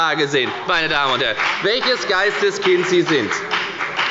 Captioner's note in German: Beifall bei der FDP